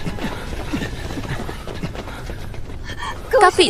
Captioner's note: panting